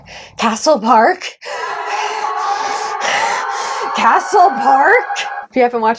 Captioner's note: faint screaming